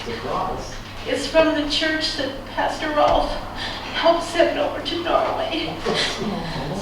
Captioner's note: tearfully